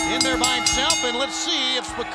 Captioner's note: bell ringing